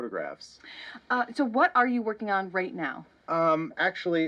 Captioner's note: newscaster